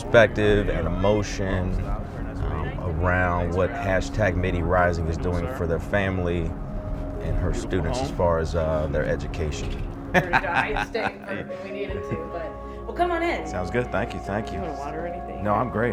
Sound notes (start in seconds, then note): 10.1 laughs